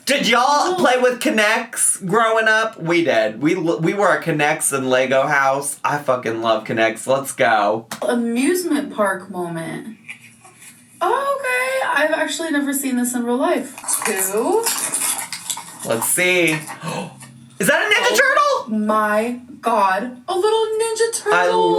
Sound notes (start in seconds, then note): 16.7 gasps